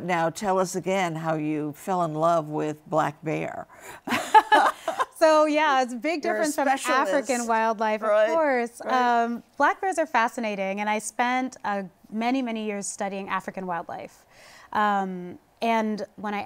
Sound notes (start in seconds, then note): 4.0 laughter